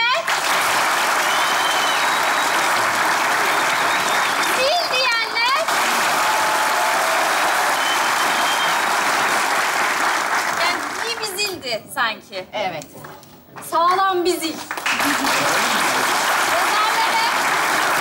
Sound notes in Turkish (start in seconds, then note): 0.2 Alkış sesleri; 5.6 Alkış ve ıslık sesleri; 14.5 Alkış sesleri